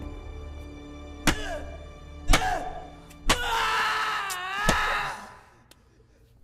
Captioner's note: Iqbal screaming